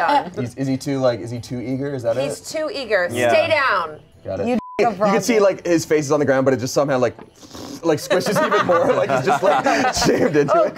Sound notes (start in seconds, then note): 4.5 beep; 7.4 blows raspberry